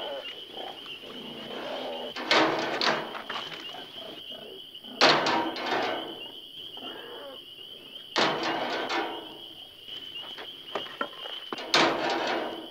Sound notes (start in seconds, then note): 2.1 metal rattling